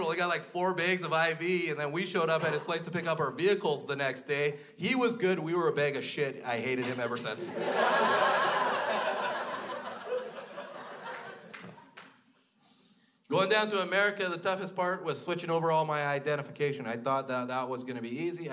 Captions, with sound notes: He got like four bags of IV and then we showed up at his place to pick up our vehicles the next day, he was good, we were a bag of shit. I hated him ever since. (crowd laughs) Going down to America, the toughest part was switching over all my identification. I thought that that was gonna be easy.